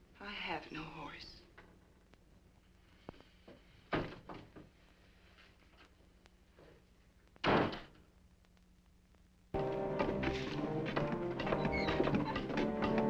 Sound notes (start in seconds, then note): 7.4 door slamming; 9.5 dramatic music